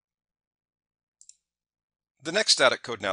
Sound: mouse clicking

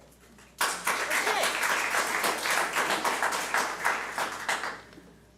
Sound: audience applauds

